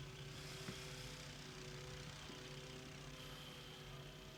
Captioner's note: lawnmower whirring